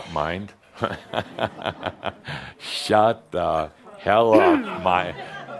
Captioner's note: chuckles; clears her throat